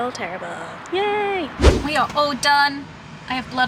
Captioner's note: whooshing sound